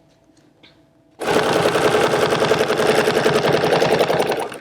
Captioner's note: machine whirring